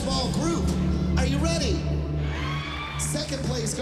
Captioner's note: cheering and applause